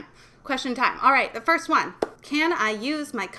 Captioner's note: clapping hands